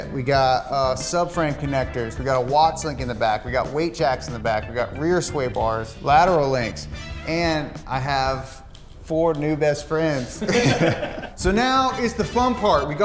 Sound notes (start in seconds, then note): 10.2 all laughing